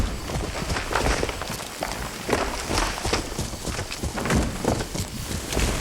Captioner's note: heavy footsteps thudding